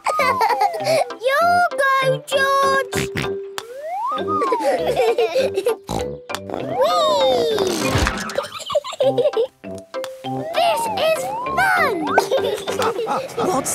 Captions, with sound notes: (laughing) Your go, George! (snort, laughing) (snort) Wee! This is fun! (laughing)